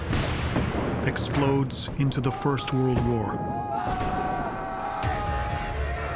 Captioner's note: soldiers shouting